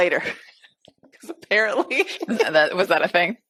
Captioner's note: laughs